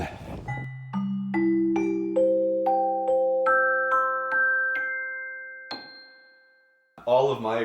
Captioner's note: bing; ding; dong